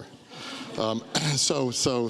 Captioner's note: audience laughs